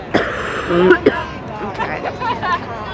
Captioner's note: coughs